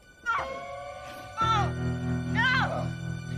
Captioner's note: tense music; Sondra grunting